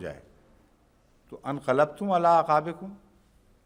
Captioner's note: Arabic